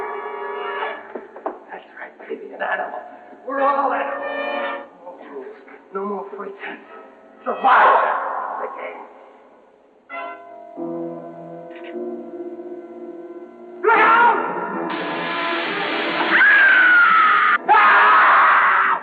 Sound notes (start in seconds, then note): 14.8 door hissing; 16.2 both screaming